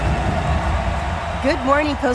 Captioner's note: audience cheering